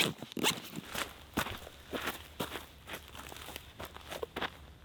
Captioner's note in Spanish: cremallera abriéndose; tierra crujiendo